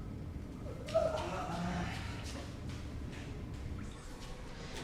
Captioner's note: french grunts